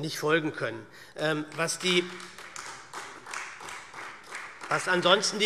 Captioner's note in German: Beifall SPD